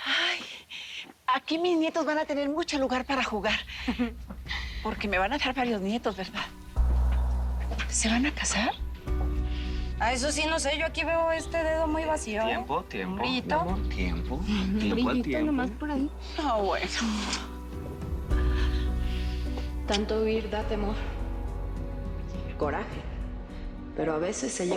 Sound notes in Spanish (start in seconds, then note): 20.6 Voz de Vicenta